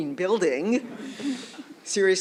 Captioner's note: laughter